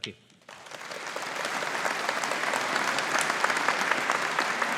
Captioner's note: audience applauding